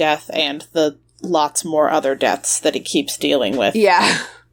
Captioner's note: laughs; coughs